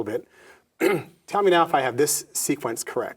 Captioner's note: clears throat